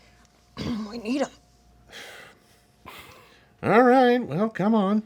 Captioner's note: clears throat